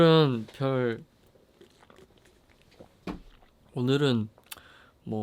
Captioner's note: slurp